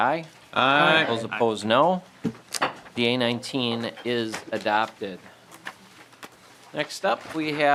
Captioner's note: chorus of ayes